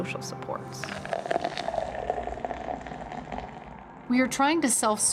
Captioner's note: soda trickling